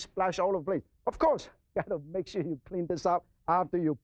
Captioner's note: laughs